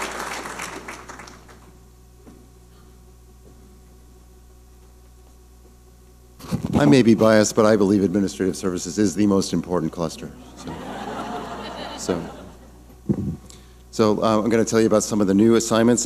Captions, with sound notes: - I may be biased but I believe Administrative Services is the most important cluster, so. (audience laughing) So. So, I'm gonna tell you about some of the new assignments